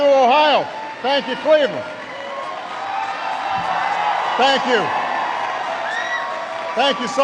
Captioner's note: applause